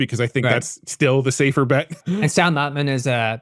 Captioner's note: chuckles